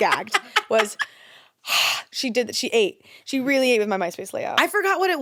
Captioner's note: gasps